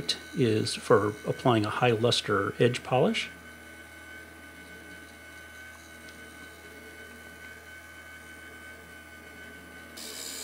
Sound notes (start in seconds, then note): 4.6 machine whirring